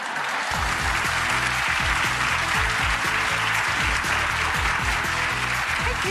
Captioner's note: audience applauds; upbeat music